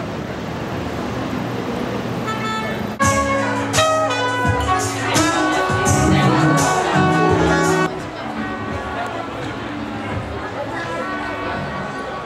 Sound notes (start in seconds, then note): 1.3 car horn blares; 6.8 lively chatter